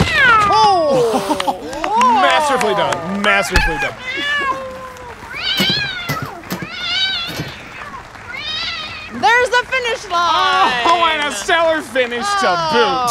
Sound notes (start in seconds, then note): 3.4 cat yowling, thudding; 3.5 cat thuds